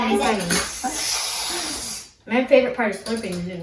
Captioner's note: slurps